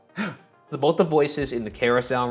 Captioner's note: Shane gasps